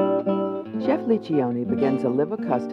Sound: voiceover

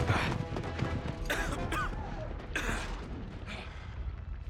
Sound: coughing

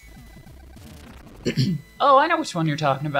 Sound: clears throat

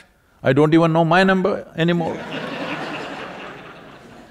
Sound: laughter

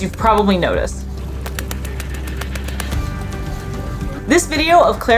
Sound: background music; quiet noise of Clara rapidly tapping her paws on the concrete

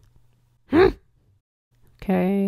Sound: grunts

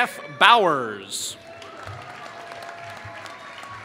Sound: applause

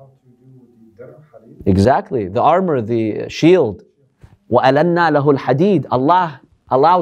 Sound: Arabic

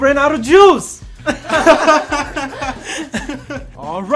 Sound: all laughing

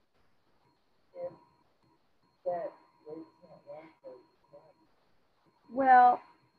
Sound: student speaking faintly

